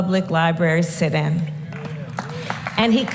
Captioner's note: applause